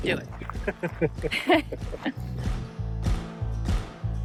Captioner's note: both laughing